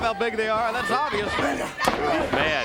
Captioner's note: crowd chatter